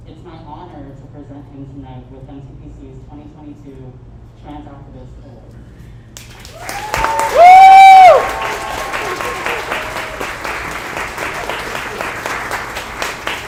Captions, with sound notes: It's my honor to present him tonight with MTPCs 2022 Trans Activist Award. (audience applauds)